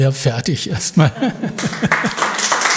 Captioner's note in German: Applaus